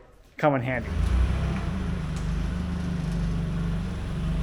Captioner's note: engine rumbling